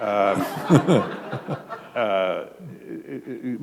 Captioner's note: laughter